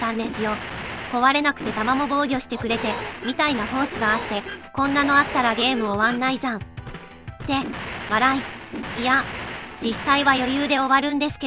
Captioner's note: laughs